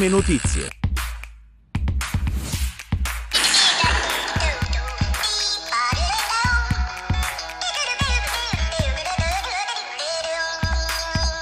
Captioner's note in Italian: Applauso